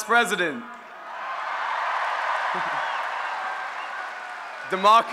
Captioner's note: cheering